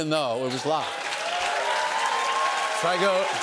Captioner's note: cheers and applause